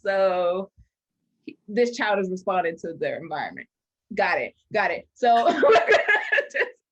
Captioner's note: both laugh